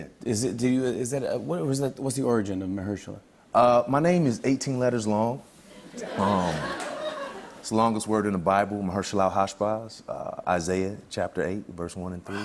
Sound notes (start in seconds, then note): 5.8 laughter